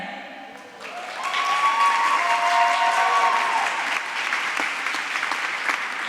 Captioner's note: applause